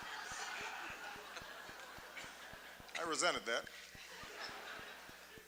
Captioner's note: laughter, applause; laughter